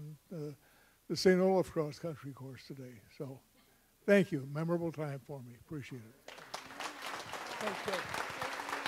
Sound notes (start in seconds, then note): 6.2 audience applauds